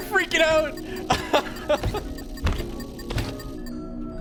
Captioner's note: laughs